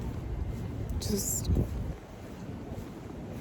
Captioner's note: wind gusts